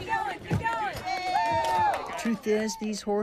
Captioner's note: group cheering